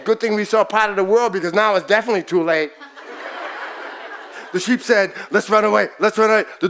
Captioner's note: audience laughs